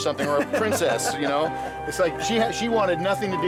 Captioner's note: laughs